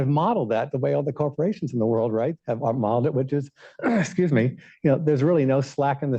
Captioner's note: coughs